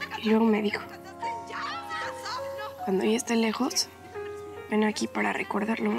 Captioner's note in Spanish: voz de emiliana